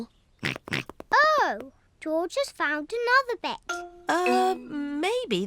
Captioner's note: snorts